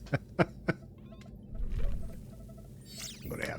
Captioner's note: laughs